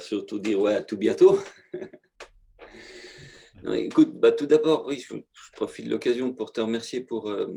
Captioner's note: laughter